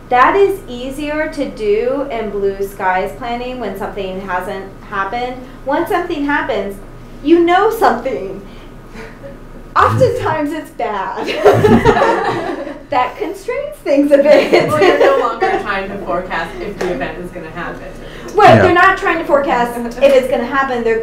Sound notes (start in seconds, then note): 11.2 everyone laughs; 14.3 laughs